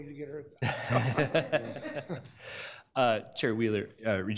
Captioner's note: laughs